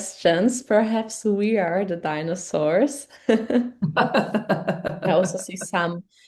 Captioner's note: laughing